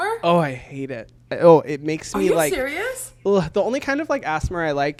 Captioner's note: groans